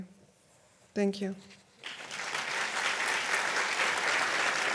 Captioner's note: audience applauds